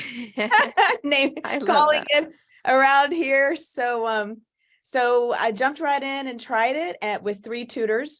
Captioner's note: laughs